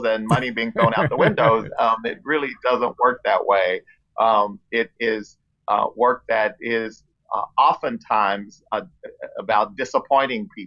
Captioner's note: laughs